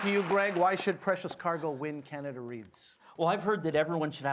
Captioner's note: applause